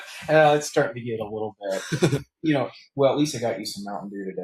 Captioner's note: laughs